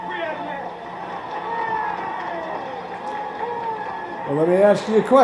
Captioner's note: audience cheering